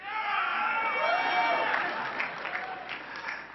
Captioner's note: cheering